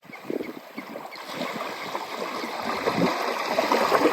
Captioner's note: waves splashing on a beach